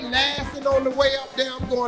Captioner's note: laughing